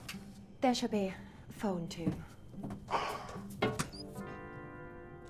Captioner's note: sighing